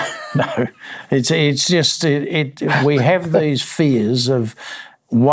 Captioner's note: laughing